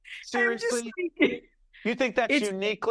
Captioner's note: laughing